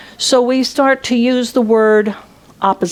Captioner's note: none